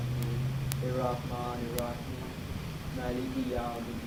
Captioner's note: non-english speech; speaking in foreign language